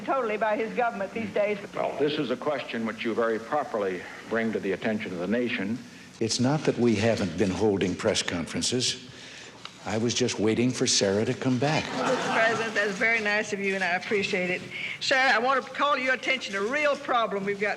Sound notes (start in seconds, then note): 11.8 audience laughing